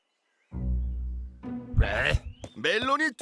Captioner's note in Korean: 신음